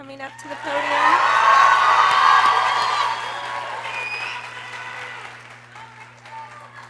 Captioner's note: people cheering; people exclaiming